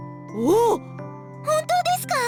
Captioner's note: impressed grunt